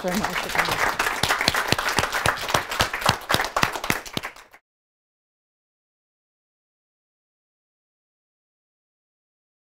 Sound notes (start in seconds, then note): 0.2 voiceover; 2.4 audience applause